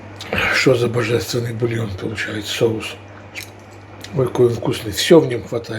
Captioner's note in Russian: откашливается